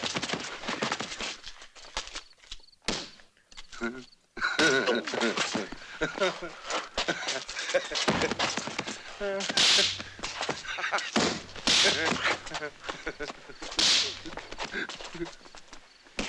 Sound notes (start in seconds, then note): 3.5 laughing